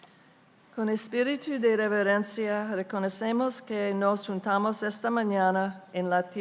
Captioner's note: speaking in foreign language